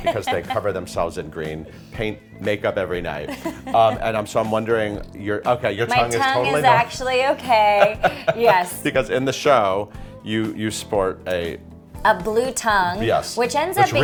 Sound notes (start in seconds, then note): 7.6 laughing